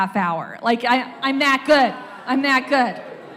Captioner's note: audience wows